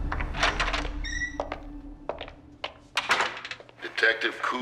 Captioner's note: door opens; footsteps approach